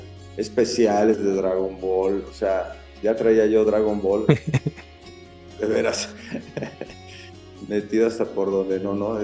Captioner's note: laughs